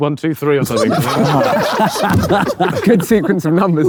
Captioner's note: group laughs